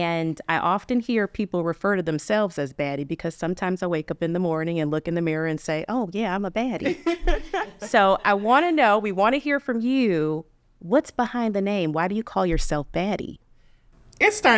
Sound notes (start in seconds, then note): 6.8 laughs